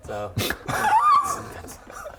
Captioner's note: girly eeeeeeee